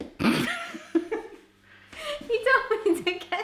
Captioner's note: laughing